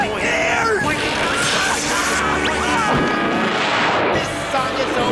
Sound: screaming; singing

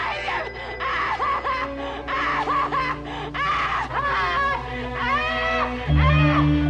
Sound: dramatic music; Betty screams

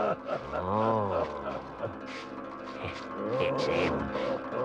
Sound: footsteps drag; Badger laughs

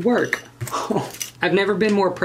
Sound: breath

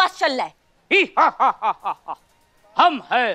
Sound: evil laughter

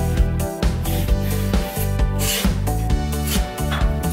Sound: pencil scraping

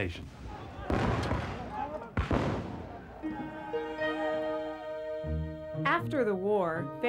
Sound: gunfire

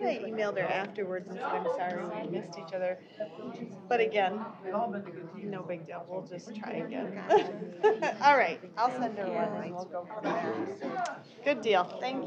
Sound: off-mic chatter

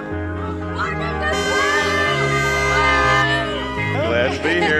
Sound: cars honking

